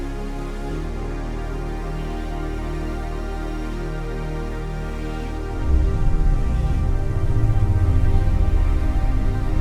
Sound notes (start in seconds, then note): 5.6 spacecraft whirring